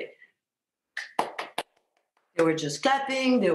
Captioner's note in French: Céline tape dans ses mains